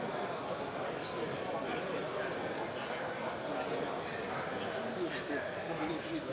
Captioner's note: people Chattering